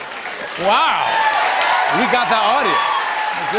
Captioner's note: laughter and applause; cheering and applause